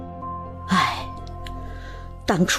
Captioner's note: sighs